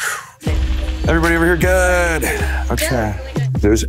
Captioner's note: sighs